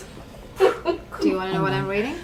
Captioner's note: laughs